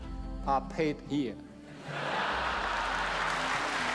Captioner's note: laughter; applause